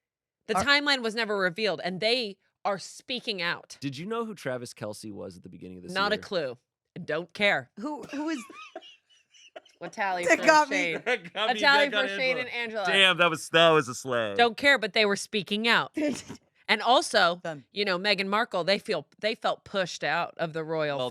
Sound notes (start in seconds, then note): 9.4 laughs; 16.0 laughs